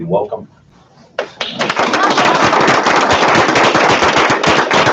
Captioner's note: applauding